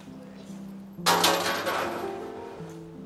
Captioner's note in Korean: 동전 넣는 소리